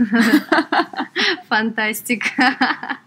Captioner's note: laughs